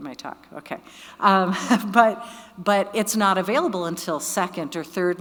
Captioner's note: laughing